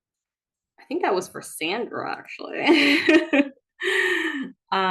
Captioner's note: laughs